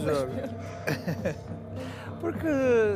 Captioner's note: laughter